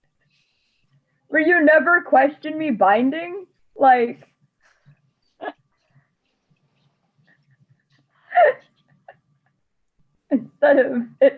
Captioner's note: laughs